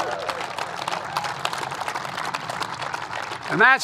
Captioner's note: applause